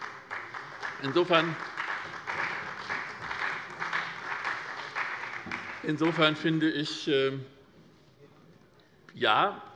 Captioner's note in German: Beifall bei der SPD